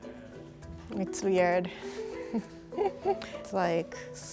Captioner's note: laughs